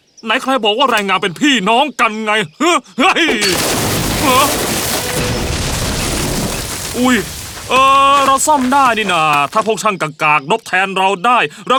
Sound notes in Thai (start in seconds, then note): 3.1 เสียงหอคอยถล่ม